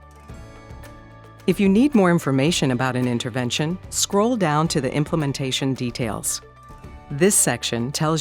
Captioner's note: voiceover